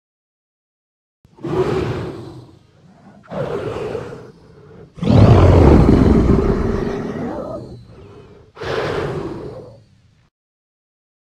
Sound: sound of creature

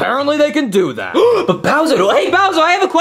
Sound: gasps

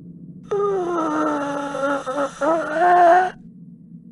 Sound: creepy breathing

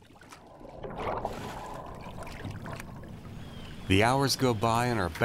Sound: water splashing from catch

